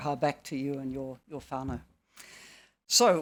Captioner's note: speaking in foreign language; speaking foreign language